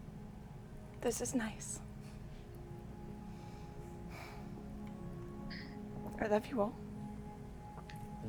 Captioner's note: sighs